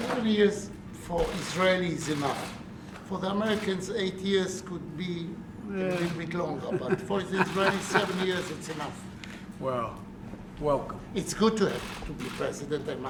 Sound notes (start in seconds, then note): 6.4 laughs